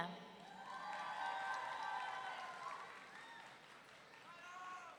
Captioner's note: audience cheering